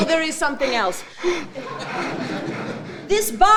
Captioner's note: audience laughing; Shylock panting